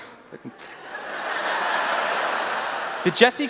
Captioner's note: laughter